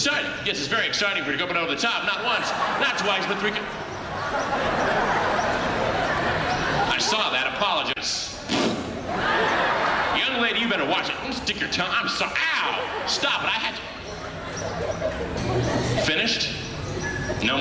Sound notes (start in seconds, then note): 4.7 audience laughing; 8.6 blowing raspberry